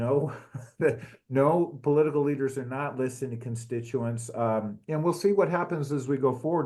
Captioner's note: laugh